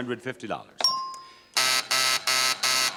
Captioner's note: counter beeps; counter buzzes